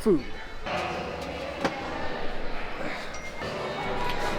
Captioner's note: light grunt